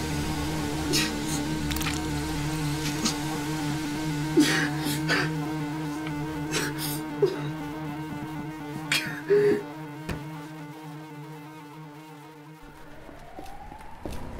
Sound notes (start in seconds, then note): 1.6 liquid squelching; 4.6 pained crying